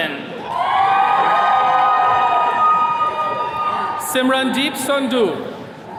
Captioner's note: attendees cheering